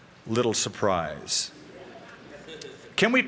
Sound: laughter

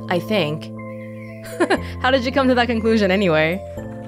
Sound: chuckles

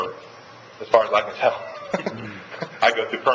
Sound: laughs

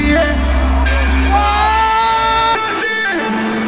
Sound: exhilarated "ohh!" by fan

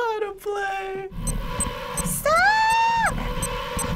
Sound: beeping; music intensifying

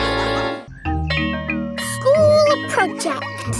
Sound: school bell rings

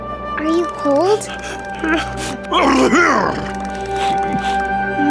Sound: shivering and sneezing

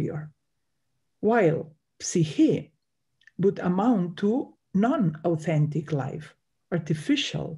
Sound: speaks in Greek

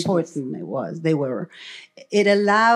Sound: foreign language

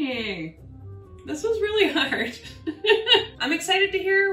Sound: laughing

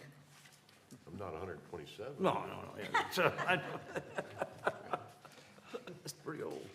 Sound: laughter

